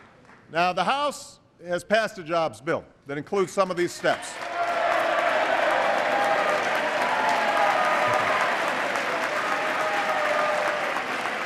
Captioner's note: applause